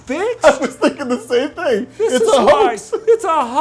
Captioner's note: laughing